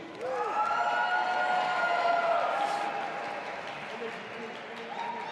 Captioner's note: audience applauding and cheering